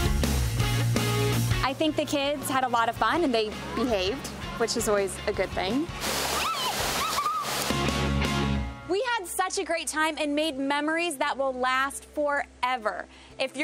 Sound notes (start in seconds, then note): 0.2 upbeat music; 6.9 kids laughing